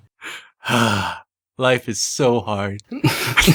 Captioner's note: sigh